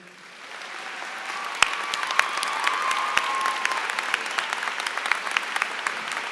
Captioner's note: applause